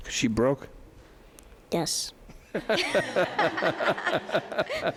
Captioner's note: laughing